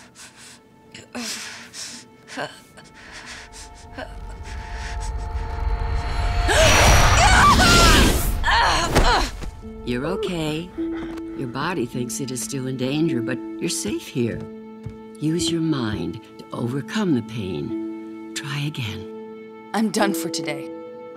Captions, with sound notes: [groaning] [gasping, screaming] [grunting, thudding] You're okay. Your body thinks it is still in danger, but you're safe here. Use your mind to overcome the pain. Try again. I'm done for today.